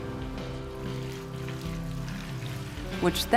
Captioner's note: milk splashing